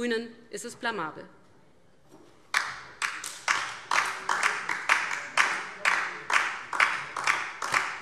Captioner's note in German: Beifall DIE LINKE